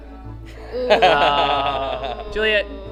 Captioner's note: groaning